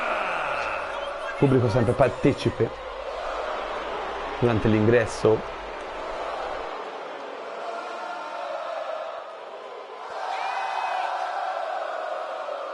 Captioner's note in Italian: Applauso; Applauso